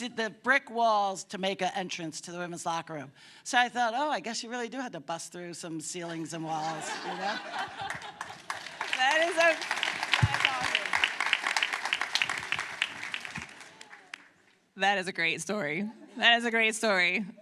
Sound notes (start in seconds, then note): 6.4 laughter; 11.0 applause